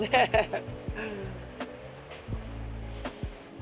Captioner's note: laughs